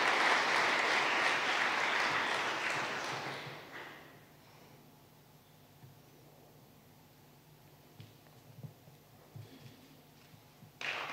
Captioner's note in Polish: oklaski